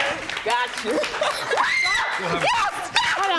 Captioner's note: shrieking happily